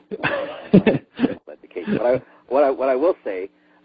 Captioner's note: laughs